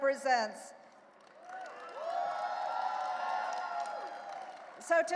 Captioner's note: audience cheering and applauding